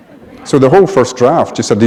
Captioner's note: laughter